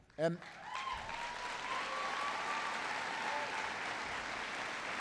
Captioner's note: applause